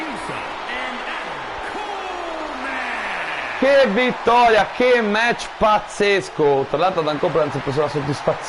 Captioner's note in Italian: Applauso